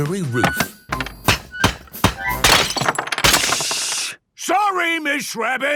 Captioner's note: banging, crashing